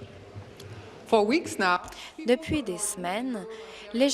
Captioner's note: speaking in french